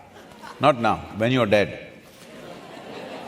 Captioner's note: laughter